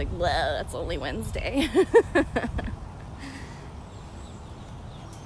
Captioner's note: laughter